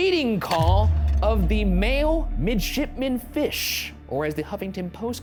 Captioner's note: slide projector clicks